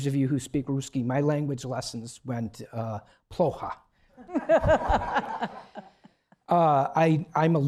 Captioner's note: russian